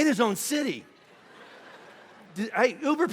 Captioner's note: congregation laughing